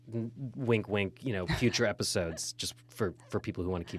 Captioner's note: laughing